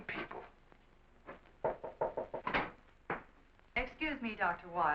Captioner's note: door knocking